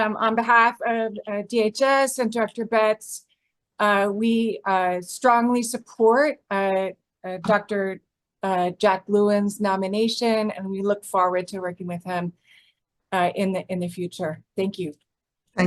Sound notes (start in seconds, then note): none